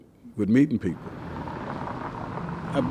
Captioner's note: car engines revving